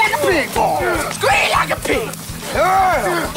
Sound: fighting sound effects

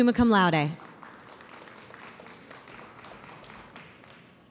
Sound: audience applauds

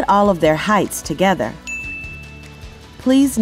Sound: bell Rings

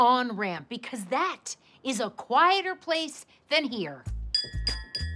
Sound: spoon clinking against cup

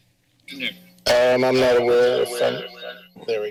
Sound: echoes

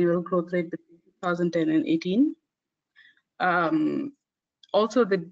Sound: audio static

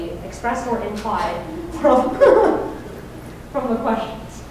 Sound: chuckling

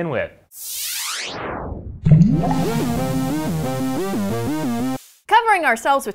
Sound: electric zipping and ambient music

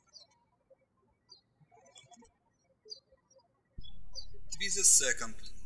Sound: birds chirping

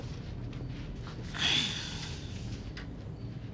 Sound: sighs

